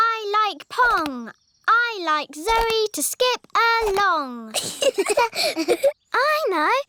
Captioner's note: both laugh